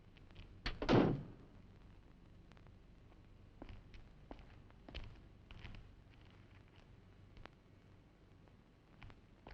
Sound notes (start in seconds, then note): 1.1 car door thudding